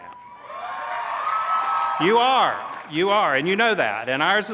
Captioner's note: cheers